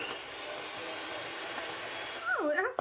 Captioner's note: blender